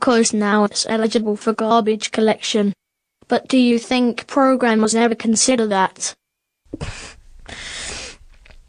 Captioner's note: cry